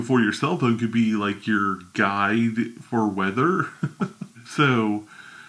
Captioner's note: laughs